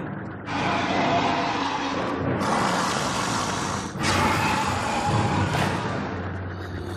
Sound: growling

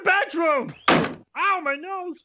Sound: slam

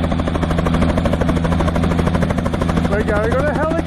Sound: helicopter noise

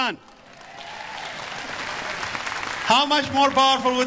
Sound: audience applause

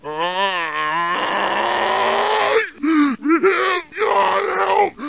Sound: zombie screaming

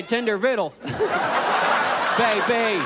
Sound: audience laughs

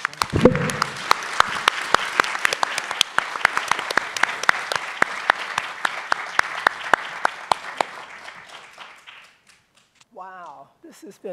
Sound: applause

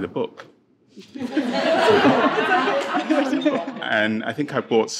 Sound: participants laughing

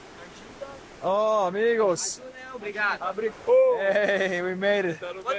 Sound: friends chattering

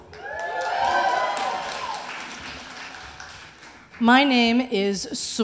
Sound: audience cheering

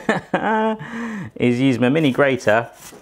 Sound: chuckling

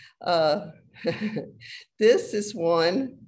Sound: laughs

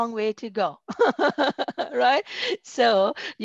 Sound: laughter

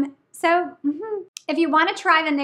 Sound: woman humming

